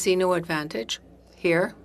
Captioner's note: speaking French